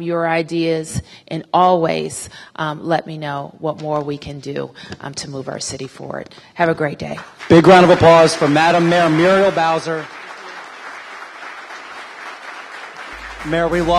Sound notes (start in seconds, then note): 7.2 applause